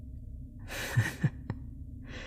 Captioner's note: chuckle